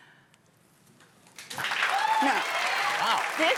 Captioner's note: cheers and applause